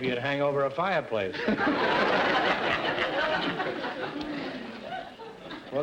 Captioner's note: audience laughter